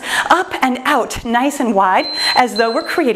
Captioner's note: timer beeps